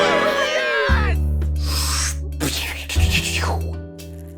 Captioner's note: cheer; spitting noises